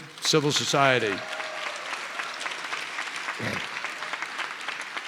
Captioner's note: applause